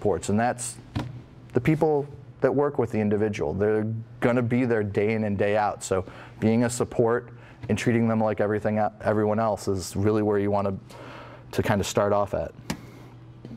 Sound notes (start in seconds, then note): none